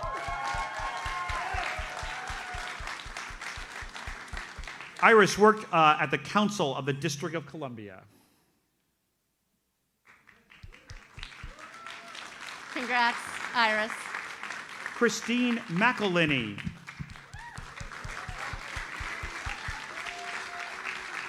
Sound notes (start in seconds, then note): 0.0 audience cheers and applauds; 9.3 audience applauds; 17.6 audience applauds